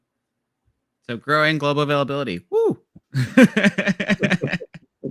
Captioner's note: laughs